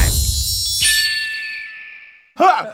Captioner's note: distant cries of a red-tailed hawk